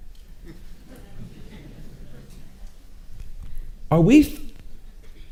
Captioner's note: audience chuckling